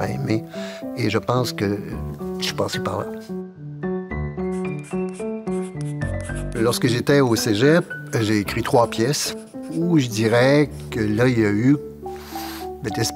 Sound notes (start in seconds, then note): 4.4 pencil scratching